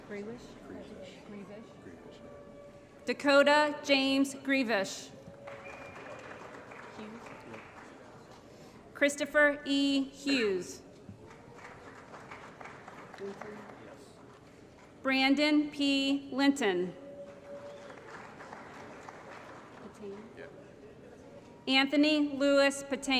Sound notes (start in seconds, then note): 5.3 applause; 11.2 applause; 17.2 applause